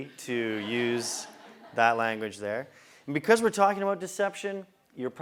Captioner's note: laugh